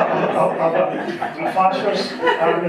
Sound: audience laughing

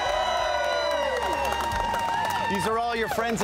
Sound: applause and cheering

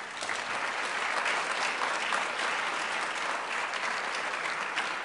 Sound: applause

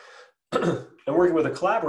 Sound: clears throat

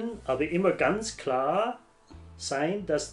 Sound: none

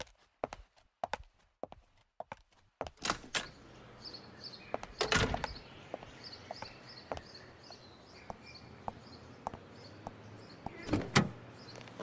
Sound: car starts; door opens then closes

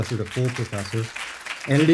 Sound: applause

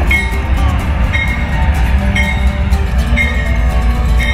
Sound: train bell

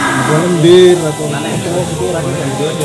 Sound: people sounds

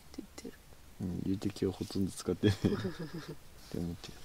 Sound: laughs

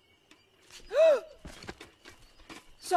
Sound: exclaims

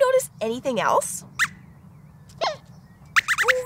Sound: squeaks squeaks

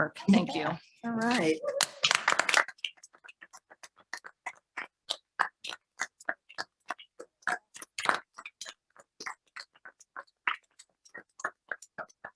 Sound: more applause

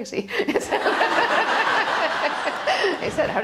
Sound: laughter

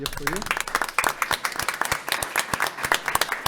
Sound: group clapping

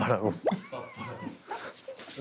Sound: burst out in laughter

